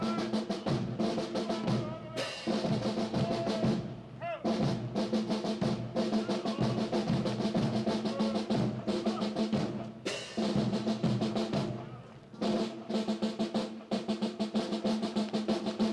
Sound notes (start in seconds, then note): 7.1 le commandant de troupe crie